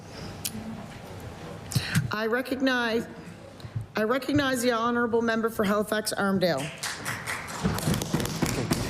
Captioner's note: applause